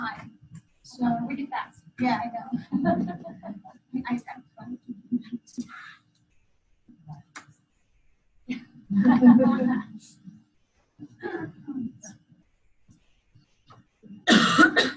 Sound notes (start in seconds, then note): 3.1 overlapping chatter and laughter